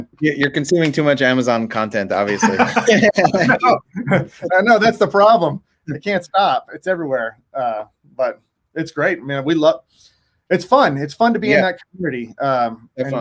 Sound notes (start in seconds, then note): 2.2 laughing